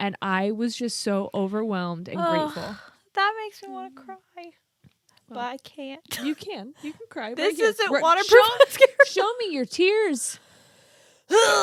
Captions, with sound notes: And I was just so overwhelmed and grateful. - That makes me wanna cry but I can't. - You can, you can cry. - This isn't waterproof (laughs). - Show me your tears.